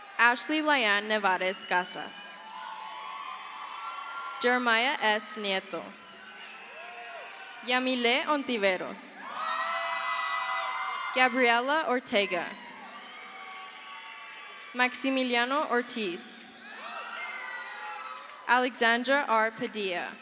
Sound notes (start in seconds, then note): 0.0 crowd cheers; 9.7 crowd cheers; 16.9 crowd cheers